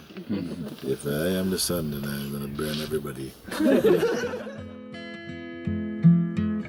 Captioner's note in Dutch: gelach